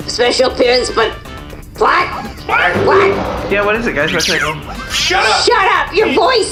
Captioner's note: shouting